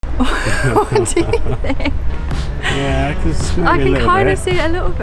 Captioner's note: laughing